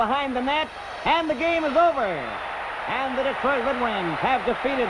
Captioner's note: bell ringing